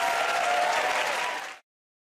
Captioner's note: cheers and applause